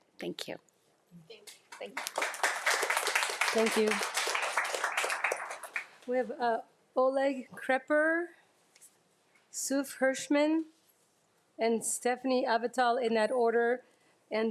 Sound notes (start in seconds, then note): 1.6 audience applauding